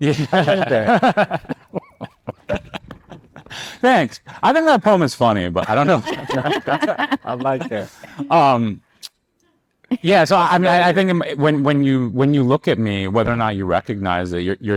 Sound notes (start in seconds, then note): 0.0 laughing; 5.6 all laughing